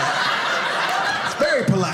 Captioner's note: audience laughing